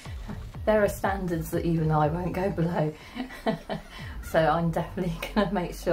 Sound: laughs

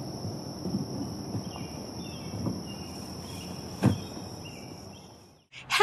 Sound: the sound of birds chirping

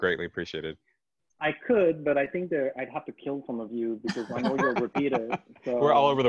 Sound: moderators laugh

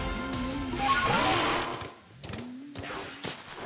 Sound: Stantler sounds

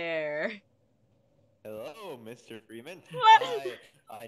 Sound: Gordon screams slightly

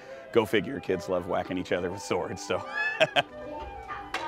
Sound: chuckles

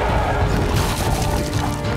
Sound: smashing

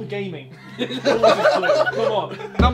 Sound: all laughing; tense music

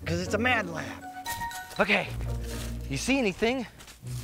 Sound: leaves rustling

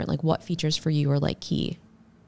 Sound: none

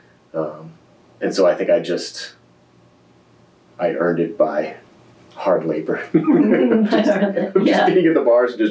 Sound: laughter

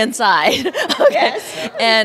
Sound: laughter

